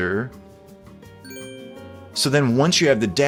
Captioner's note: bell chiming